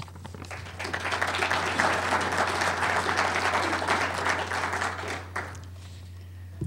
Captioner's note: applause